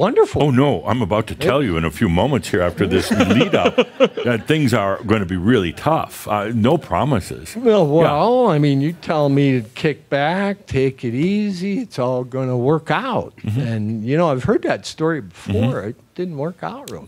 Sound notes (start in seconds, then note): 2.9 chuckles